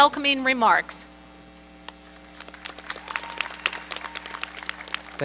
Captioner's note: applause